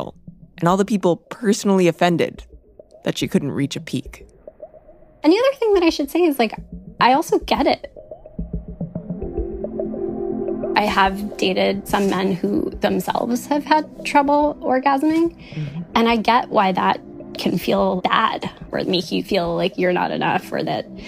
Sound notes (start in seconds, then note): none